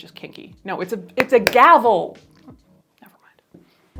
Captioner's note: brush thuds